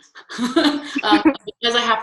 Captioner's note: laughing